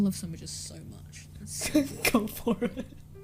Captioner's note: laughs